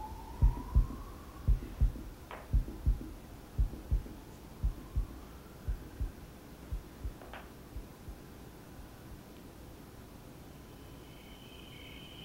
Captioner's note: The heartbeat stops. Ichabod gulps; chirping crickets are heard